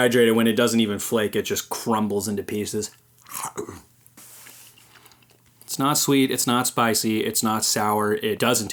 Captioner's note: chew